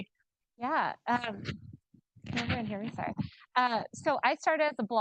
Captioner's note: mic distorting